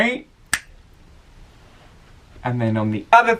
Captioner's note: fingers snap